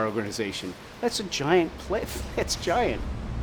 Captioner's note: laughs